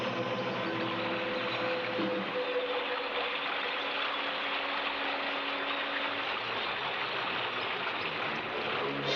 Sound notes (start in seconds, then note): 3.0 water splashing